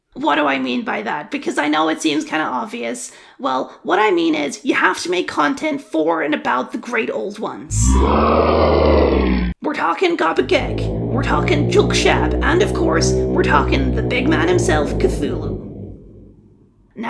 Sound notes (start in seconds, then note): 7.7 unholy screech